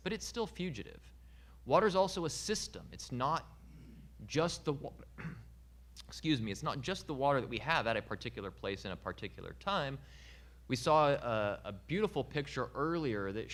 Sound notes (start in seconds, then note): 5.1 clearing throat